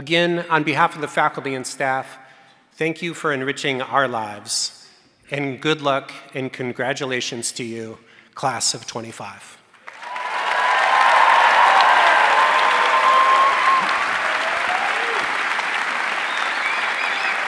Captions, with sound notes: Again, on behalf of the faculty and staff, thank you for enriching our lives. And good luck. And congratulations to you, Class of '25. (audience cheering and applauding)